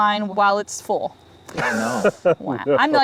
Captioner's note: group laughs